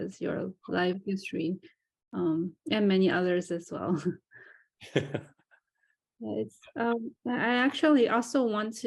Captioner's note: laughs